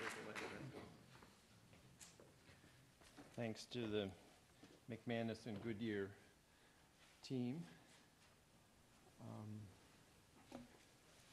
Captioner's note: applause